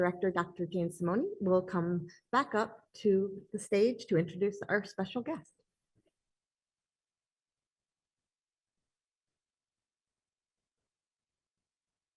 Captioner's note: pause